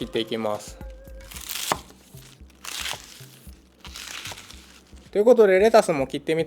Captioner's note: the sound of cutting